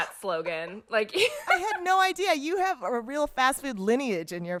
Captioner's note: laughter